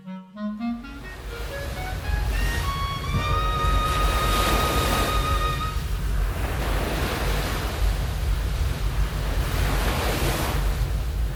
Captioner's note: water crashes repeatedly against the bow